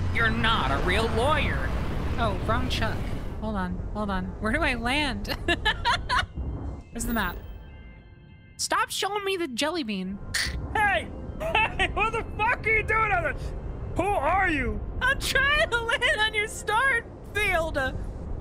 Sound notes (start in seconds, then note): 5.3 laughter